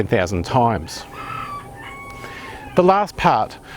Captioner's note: rooster crowing